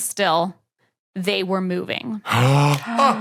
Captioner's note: gasps; snaps fingers